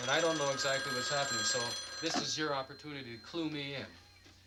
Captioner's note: phone rings